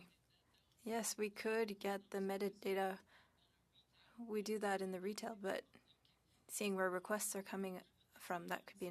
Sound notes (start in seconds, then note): 2.6 speaking French